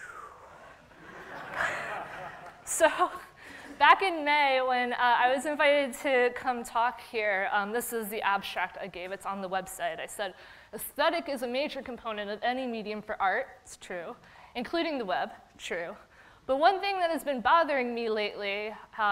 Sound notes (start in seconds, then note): 1.0 everyone laughing; 1.7 sighing dramatically